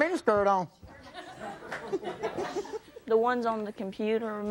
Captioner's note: audience laughing